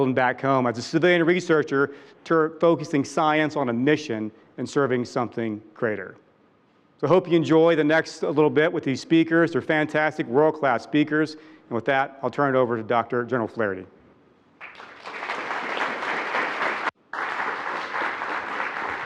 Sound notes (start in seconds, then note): 14.6 attendees applauding